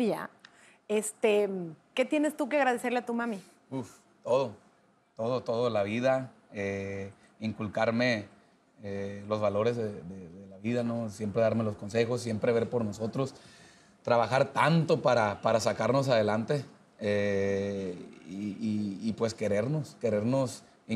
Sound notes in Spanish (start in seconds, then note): none